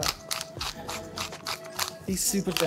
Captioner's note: grinder grinding